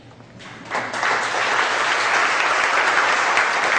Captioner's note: audience applauds